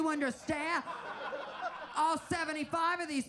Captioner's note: audience laughs